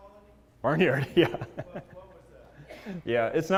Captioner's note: laugh